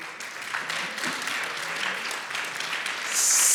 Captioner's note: applause